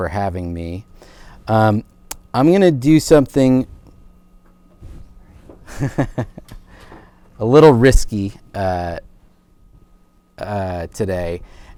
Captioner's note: laughs